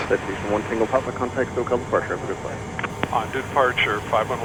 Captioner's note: radio chatter